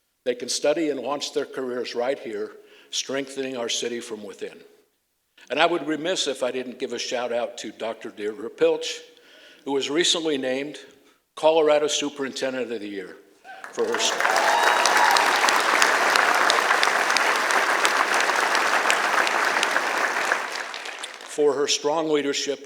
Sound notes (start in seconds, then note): 13.4 applause